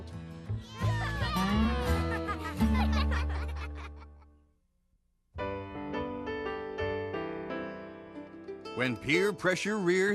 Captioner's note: laughing and cheering